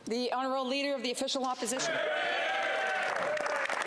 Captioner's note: speaking French